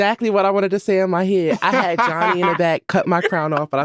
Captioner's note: laughing